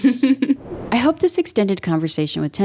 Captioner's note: chuckles